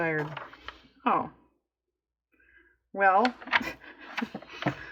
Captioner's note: laughs